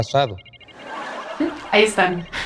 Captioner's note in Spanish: Risas